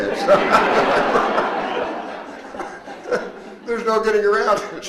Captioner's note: all laughing